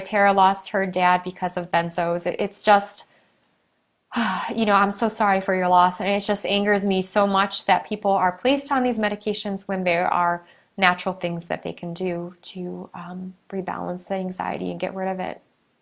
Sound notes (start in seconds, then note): 4.1 sighs